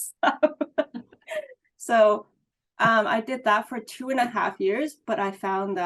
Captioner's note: laughs